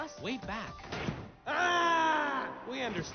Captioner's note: battle cry